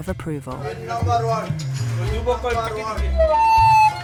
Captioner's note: foreign language